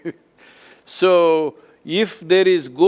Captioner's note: laughs